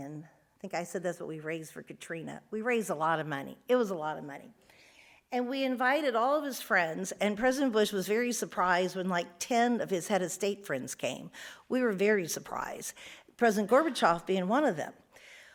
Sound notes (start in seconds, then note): none